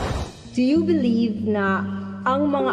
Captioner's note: none